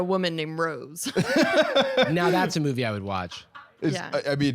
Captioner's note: laughing